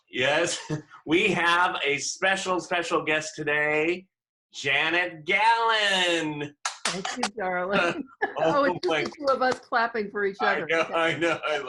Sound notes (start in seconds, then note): 6.6 clapping